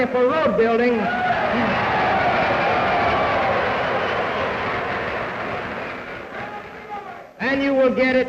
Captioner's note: cheers, applause